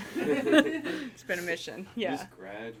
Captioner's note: everyone laughing; laughing